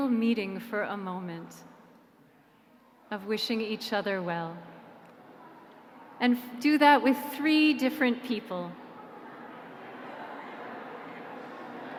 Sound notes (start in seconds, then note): 4.6 people chattering